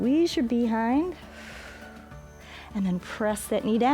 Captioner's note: exhales